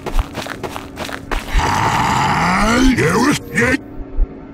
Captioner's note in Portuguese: Sniper infectado grunhindo